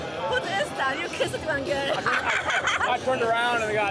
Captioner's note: laughs